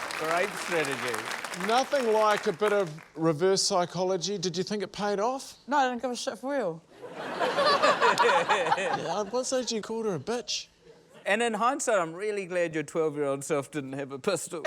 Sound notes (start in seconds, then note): 7.0 laughter